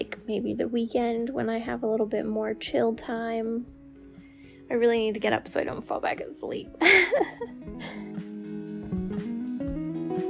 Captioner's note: laugh